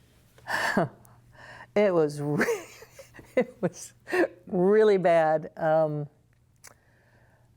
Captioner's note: laughter